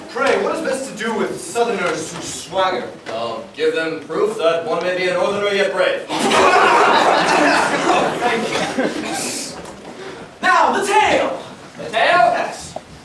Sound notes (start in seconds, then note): 6.1 laughter